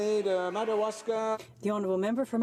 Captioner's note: speaking French